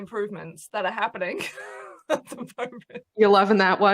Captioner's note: laughs